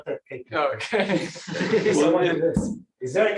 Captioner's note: laughter